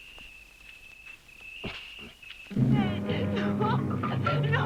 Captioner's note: insects chirring